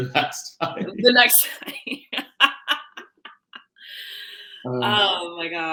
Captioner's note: laughing